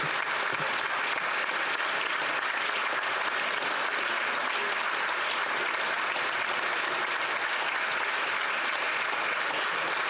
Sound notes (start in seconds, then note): 4.2 applause